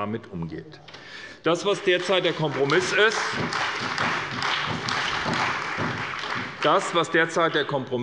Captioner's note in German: Beifall bei der SPD und bei Abgeordneten der CDU